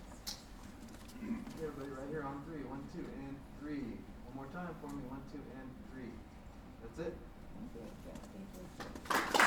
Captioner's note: indistinct chatter; applause